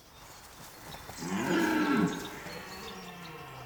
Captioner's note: deer roars